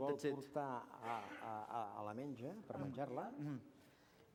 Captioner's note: non-english speech